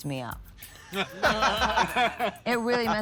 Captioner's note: laughter